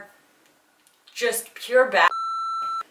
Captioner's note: beep